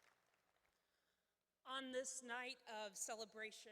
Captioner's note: applause